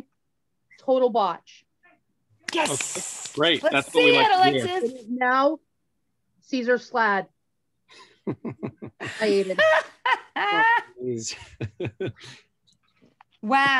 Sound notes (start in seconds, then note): 8.0 laughter